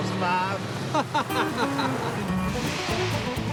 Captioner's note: laughs